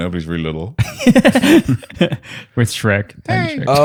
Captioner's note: laughter